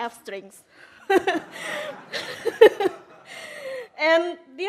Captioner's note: laughs